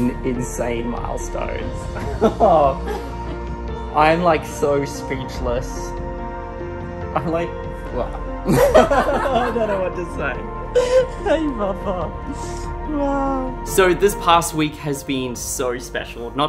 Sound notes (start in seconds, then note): 2.0 laughs excitedly; 8.4 laughs loudly